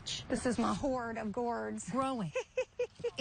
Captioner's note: laughing